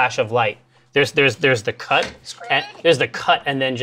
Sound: scree sound

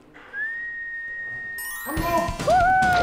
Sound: whistling

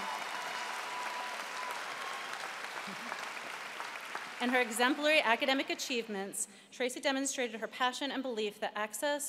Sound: cheering

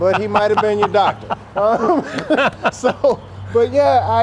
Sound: laughter

